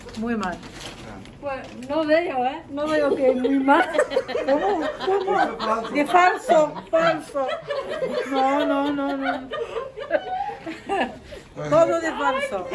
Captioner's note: laughter